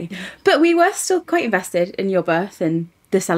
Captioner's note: none